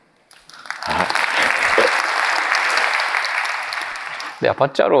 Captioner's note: applause